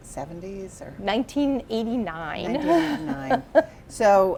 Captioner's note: laughs